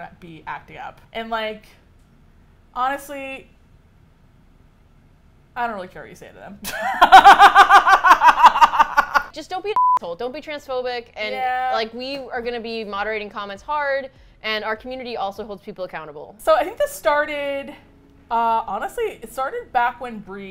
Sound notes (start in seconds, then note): 6.6 laughs